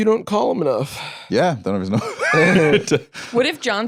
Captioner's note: laughs